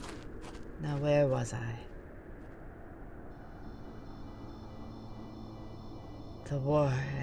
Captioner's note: footsteps leave